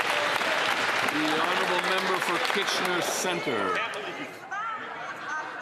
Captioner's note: some Applause